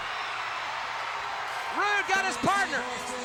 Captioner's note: crowd cheers